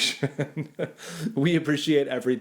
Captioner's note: chuckles